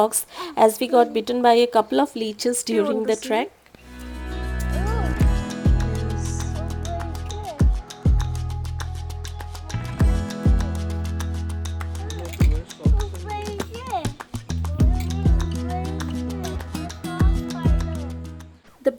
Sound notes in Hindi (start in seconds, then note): 8.7 तालियाँ